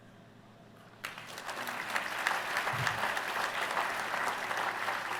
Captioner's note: applause